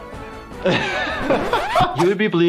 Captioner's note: ceremonial music; laughs; records scratches